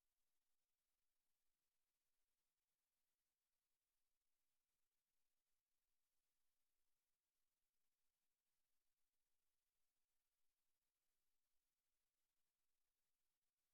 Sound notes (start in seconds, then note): none